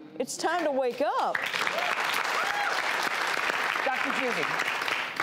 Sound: audience applauds

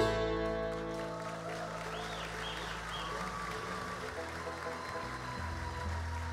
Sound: audience cheers and applauds

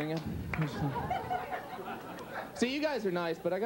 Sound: audience continues laughing

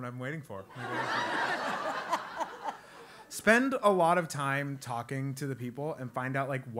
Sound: laugh

